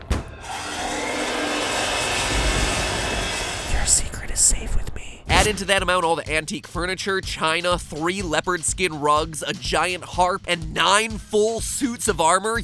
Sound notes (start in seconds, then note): 0.0 slams door; 0.0 more loud, creepy sounds and thunder crashes; 3.7 Matpat whispers to Luigi